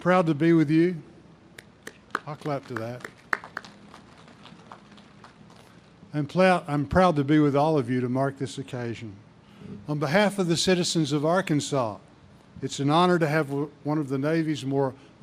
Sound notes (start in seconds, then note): 3.6 audience claps